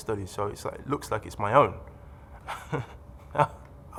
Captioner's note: laughs